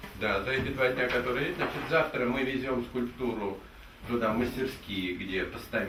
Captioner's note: speaking in the Russian language